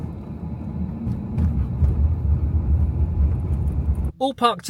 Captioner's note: tyres thud